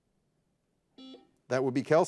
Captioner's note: buzzer buzzes